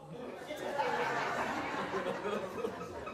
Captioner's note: laughts